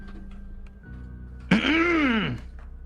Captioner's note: clears up throat